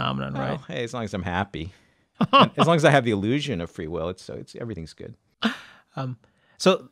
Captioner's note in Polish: śmieszki